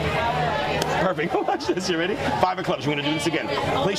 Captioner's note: hands slapping